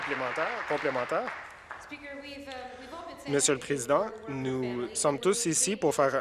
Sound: applause

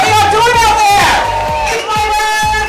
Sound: crowd cheers

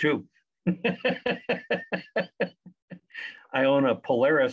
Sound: laughs

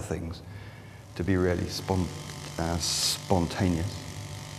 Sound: chainsaw wurring

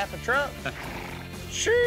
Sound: laughing

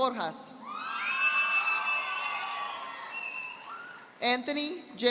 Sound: audience applauding

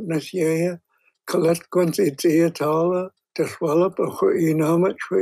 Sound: speaking in hən̓q̓əmin̓əm̓

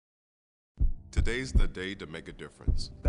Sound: heart beats

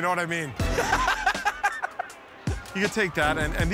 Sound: laughs

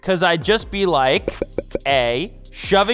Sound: popping sound

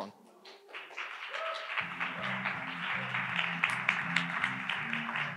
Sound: audience applauds

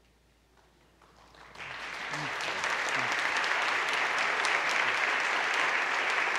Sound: applause

